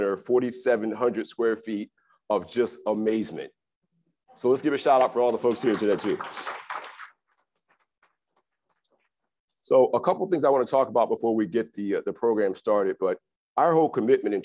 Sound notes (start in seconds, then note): 6.2 crowd applauds